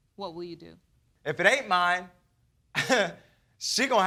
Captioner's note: chuckles